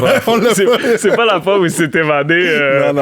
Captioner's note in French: rires